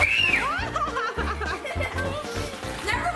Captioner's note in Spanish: carcajadas; ríe